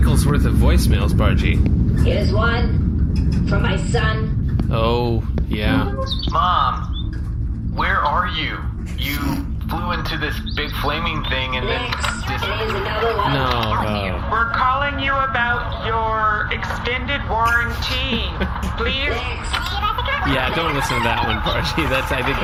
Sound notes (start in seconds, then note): 5.4 plays voicemail; 5.6 chirping birds in background; 14.3 plays voicemail